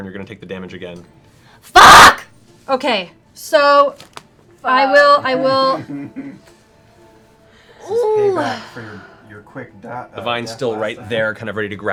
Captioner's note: shouting